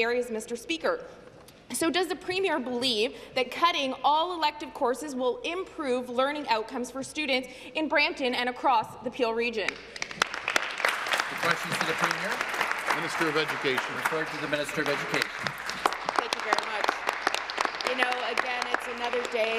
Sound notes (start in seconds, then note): 12.6 applause